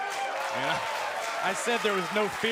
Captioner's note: crowd cheering